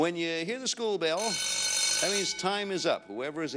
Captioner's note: bell rings